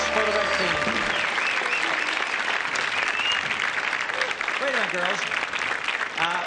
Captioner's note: audience cheers